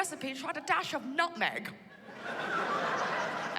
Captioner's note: laughter